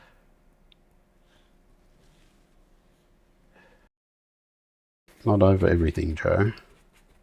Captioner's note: silence